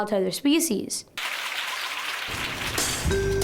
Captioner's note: applause